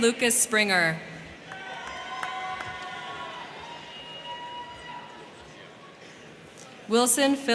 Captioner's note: crowd cheering; crowd clapping